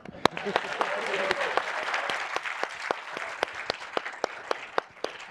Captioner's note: audience applauding